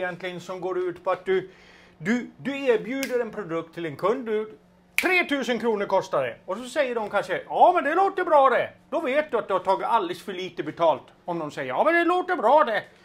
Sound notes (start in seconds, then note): none